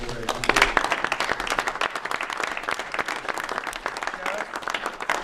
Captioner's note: applause